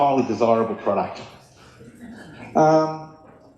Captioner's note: laughter